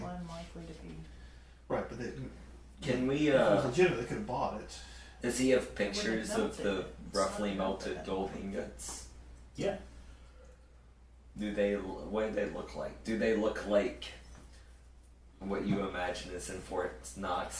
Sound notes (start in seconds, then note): none